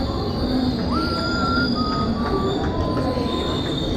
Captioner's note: cool whistling again